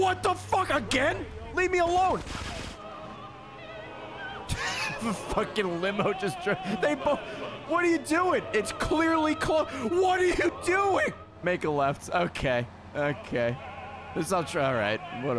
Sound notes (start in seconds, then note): 3.9 laughs